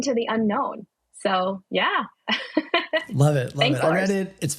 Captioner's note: laughing